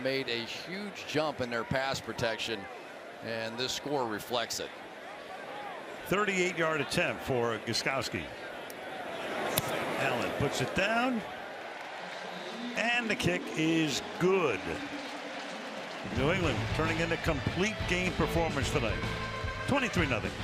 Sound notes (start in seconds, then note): 15.2 cheering